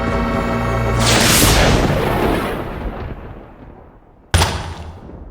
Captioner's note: lightening crashing; thudding